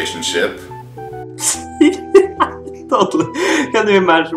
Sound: laughs

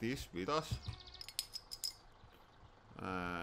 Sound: bottle cap clatters

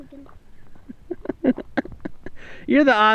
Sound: laughing

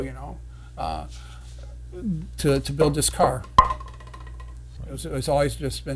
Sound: Dr. Pepper bottle falls

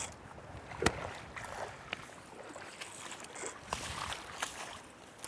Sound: fishing reel casting sounds

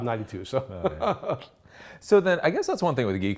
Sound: laughs

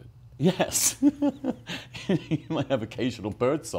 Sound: laughs

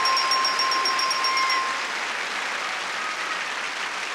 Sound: audience cheering; audience applauding

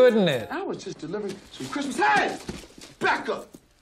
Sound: yelling

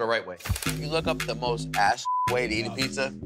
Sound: beep

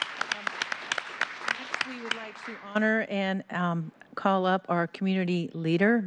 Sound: applause

